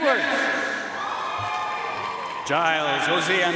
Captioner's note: audience cheering and applauding